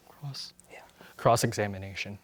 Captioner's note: whispers